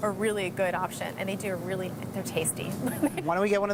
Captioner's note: laughing